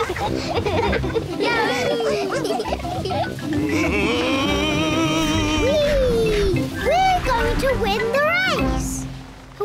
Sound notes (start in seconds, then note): 2.5 all giggle